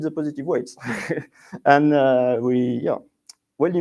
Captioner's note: laughs